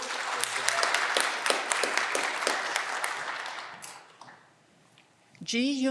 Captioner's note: audience clapping and cheering